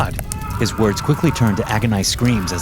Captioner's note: doctor screaming